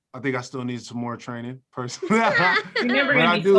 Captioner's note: laughs